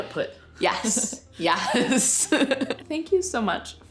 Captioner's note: laughs